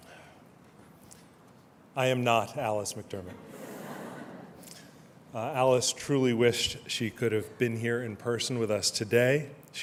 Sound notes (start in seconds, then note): 3.7 laughter